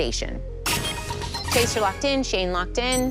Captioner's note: chime, chime